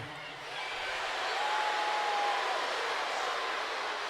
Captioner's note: crowd boos